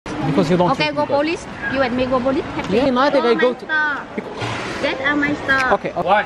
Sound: speaking Vietnamese

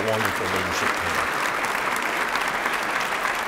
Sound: applause

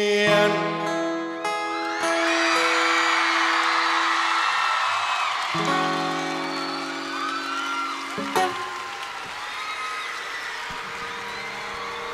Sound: applause

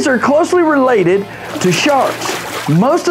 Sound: splashing

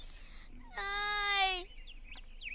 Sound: whimpers

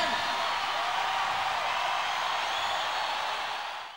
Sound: audience cheering

